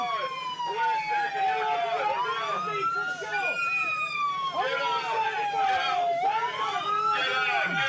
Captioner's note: instructors yelling, siren continues